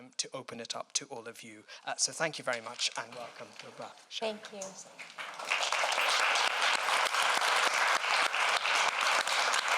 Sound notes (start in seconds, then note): 5.0 applause